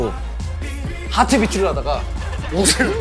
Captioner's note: heartbeat